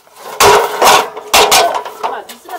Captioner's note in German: krach